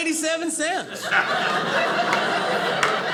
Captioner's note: audience laughing